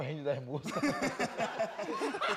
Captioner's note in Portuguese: todos riem